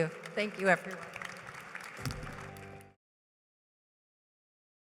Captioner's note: applause